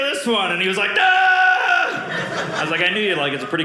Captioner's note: screaming